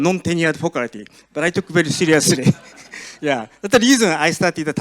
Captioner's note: chuckles